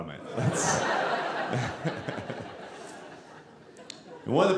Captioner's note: audience laughing